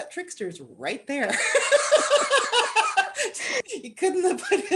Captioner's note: laughter